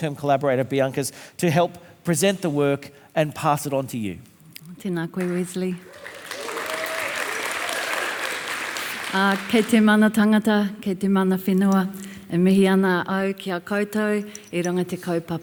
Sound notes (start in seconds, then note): 5.2 audience applauding; 5.3 speaks Maori; 9.6 speaks Maori